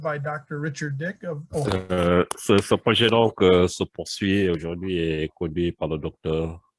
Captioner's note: translator speaking foreign language